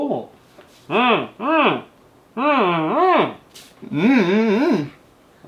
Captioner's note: humming